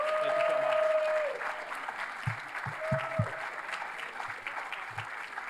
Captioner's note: cheers, applause